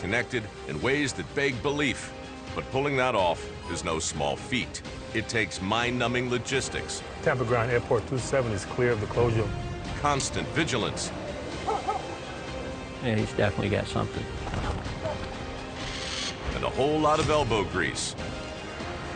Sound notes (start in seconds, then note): 11.6 dog barking; 15.7 hawk screech